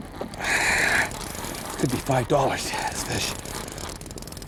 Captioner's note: grunting; grunting